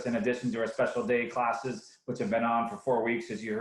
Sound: none

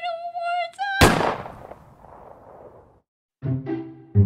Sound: gun fires

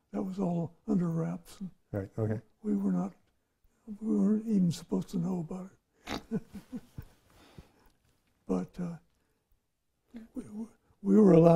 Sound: laughs

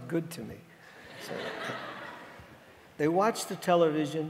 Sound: audience laughing

